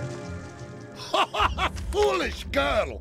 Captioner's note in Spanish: hombre se ríe